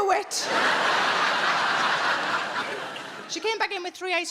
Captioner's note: audience laughing